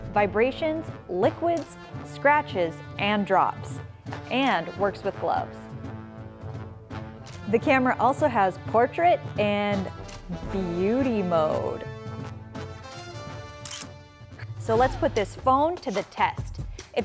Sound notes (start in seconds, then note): 13.6 camera clicking